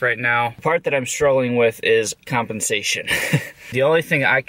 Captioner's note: laughs